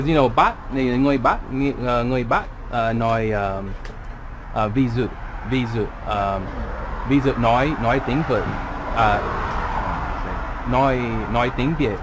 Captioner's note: northern Accent